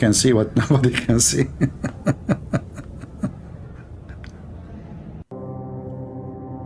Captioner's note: Ketawa